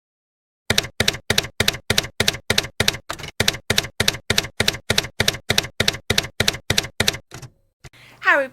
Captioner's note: typewriter keys clacking